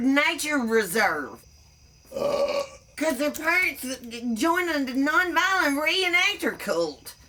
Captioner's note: burps